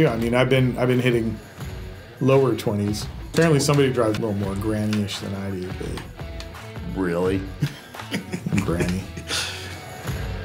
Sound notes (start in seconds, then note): 6.7 scoffs; 7.6 chuckles